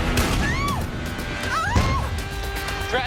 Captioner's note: screaming; woman screams; explosion